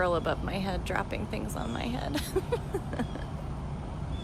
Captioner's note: laughter